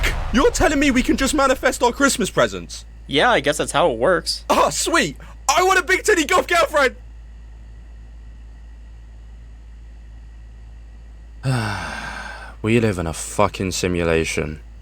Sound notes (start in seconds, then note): 11.4 sighs